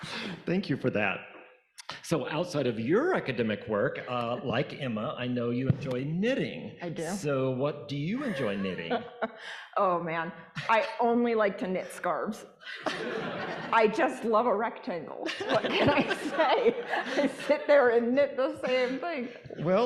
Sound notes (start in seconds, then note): 12.8 audience laughing